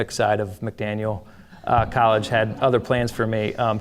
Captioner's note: audience laughing